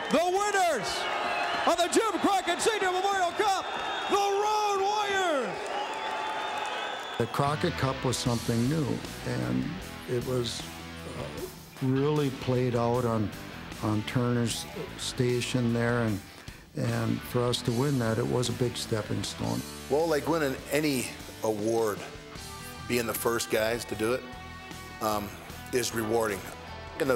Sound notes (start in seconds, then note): 6.3 applause